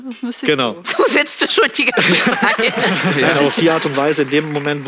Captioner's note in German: Applaus